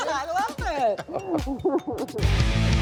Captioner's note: both laughing; lively rock music